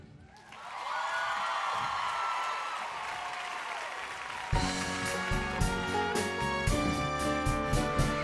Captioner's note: cheers and applause